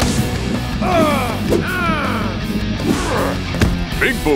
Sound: players grunting

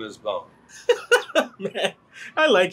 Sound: Gerard laughing

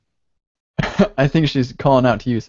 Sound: chuckles

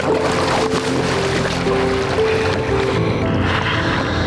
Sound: water splashing

